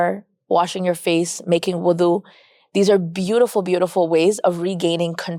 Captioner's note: speaks Arabic